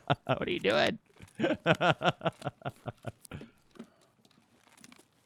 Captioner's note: laughing